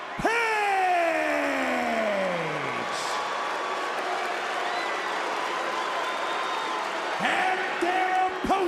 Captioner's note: crowd cheers